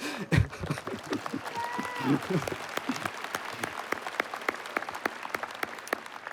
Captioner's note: applause